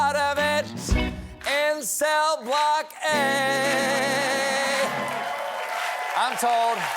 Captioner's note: applause